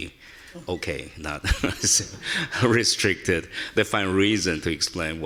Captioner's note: chuckles